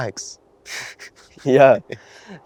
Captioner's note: Saeed chuckles